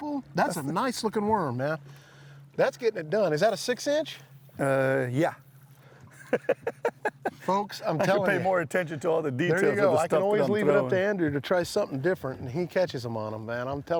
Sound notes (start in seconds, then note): 6.1 chuckles